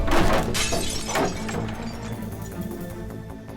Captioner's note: thud; glass shatters